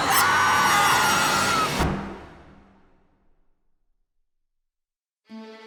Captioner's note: screams